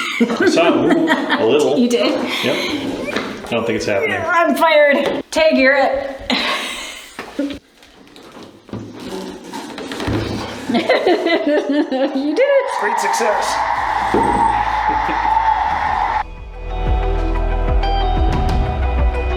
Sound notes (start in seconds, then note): 10.6 laughing; 14.5 crowd cheering